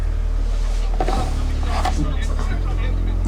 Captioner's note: Dwight speaking faintly